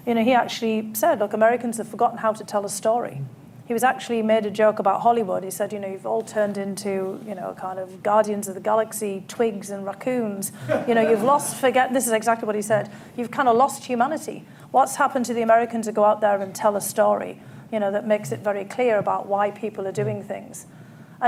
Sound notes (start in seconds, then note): 10.6 laughter